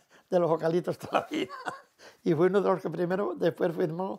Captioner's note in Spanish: ríe